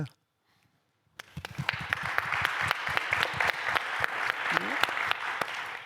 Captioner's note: applause